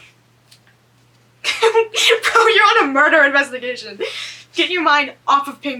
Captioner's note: laughs